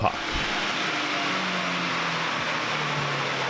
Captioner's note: engine roaring